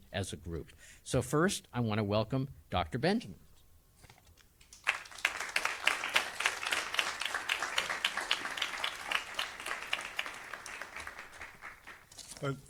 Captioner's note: applause